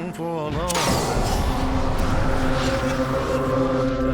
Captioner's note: portal opens